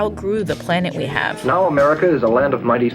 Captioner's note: soundbite of archived recording